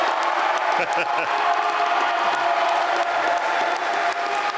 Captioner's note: laughs